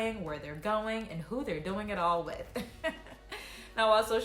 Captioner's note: laughs